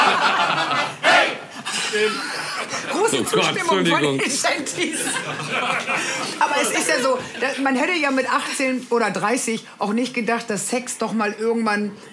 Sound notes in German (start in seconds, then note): 0.0 Lachen und Gesang; 5.5 Lachen